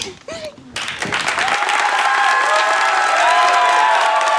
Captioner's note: audience cheers